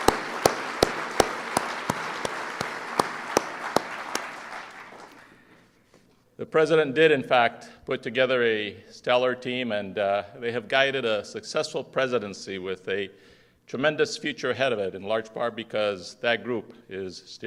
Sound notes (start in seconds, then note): 0.0 applause